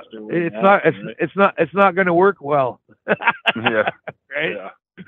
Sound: laughs

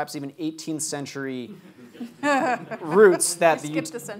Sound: light audience laughter

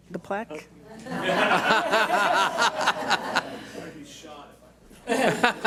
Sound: audience laughs

